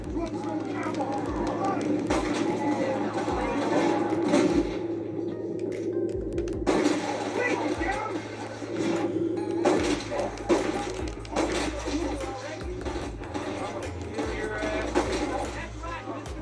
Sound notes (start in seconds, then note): 0.0 sounds of cold blood and shots; 0.0 screams of zombies and shots; 2.3 sounds of cold blood and shots; 10.3 music and shots